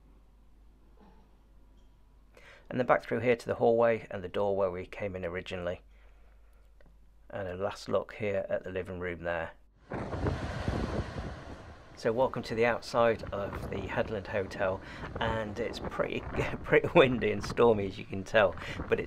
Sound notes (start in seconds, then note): 9.8 waves crashing; 9.8 thunder rumbling